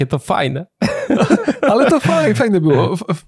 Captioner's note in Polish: śmiech